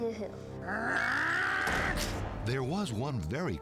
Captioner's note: grinch growling